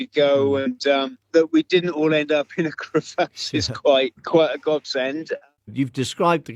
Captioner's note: laughs